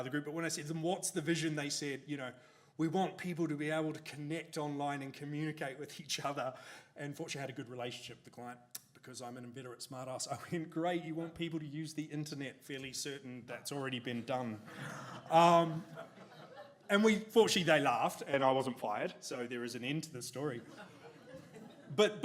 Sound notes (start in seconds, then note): 14.6 audience laughs; 20.6 audience laughs